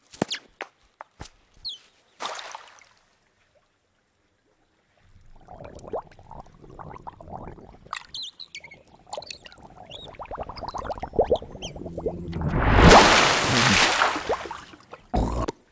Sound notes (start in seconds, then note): 0.2 bird chirping; 2.2 splashing; 5.6 splashing; 8.0 bird chirping; 10.3 bubbles popping; 12.6 splashing